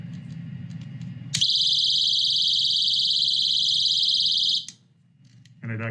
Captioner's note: alarm sound